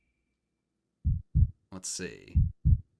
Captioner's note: heart beating